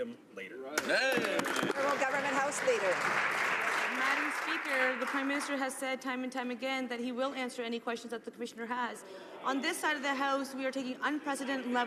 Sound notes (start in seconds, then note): 4.0 some Applause